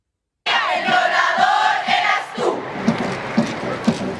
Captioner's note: non-english speech